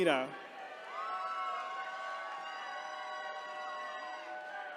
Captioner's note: attendees cheering